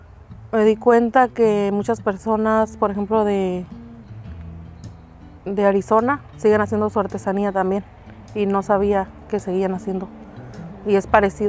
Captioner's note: speaking spanish